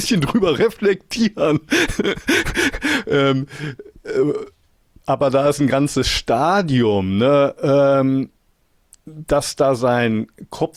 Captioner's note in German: gelächter; japst